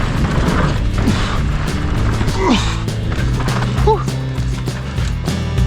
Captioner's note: upbeat music; soft grunting